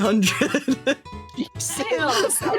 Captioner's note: laughing